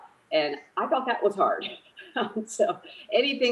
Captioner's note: laughs